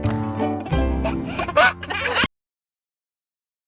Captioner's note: laughs